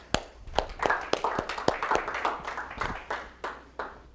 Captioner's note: applause